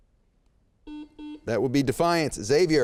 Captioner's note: beep